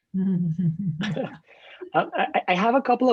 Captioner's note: laughing